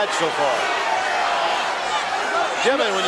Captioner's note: audience cheering